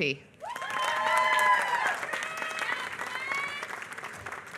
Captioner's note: applause